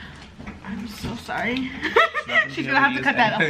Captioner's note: laughs